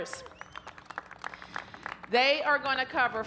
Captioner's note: applause